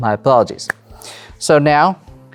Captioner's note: claps hands